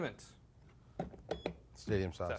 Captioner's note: beep